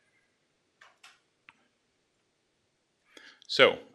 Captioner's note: clicks